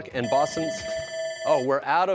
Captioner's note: bell ringing